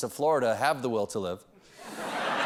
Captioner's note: laughter